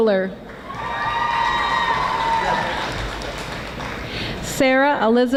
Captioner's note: audience applauding